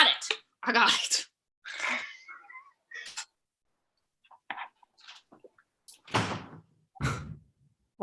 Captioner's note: A door closes